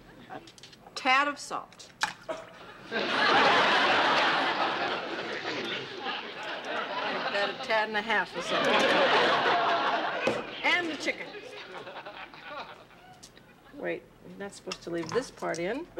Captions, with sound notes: A tad of salt. [laughter] Make that a tad and half of salt. [laughter] And the chicken. Wait, you're not suppose to leave this part in.